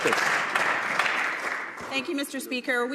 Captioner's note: some Applause